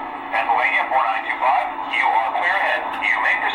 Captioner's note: voiceover